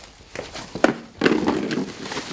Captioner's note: plastic rustling; clattering